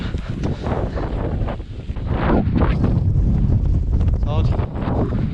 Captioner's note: wind blowing